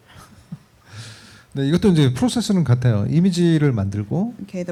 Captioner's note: speaking korean